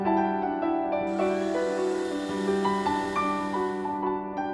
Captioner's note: sound of heat gun